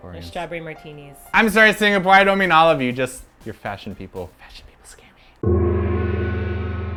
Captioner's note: whispers; gong and sexy music